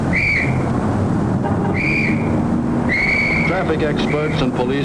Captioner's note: whistle blowing